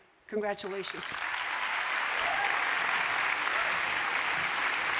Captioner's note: applause